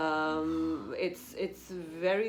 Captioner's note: sighs